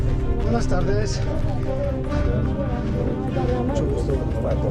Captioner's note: Spanish spoken audio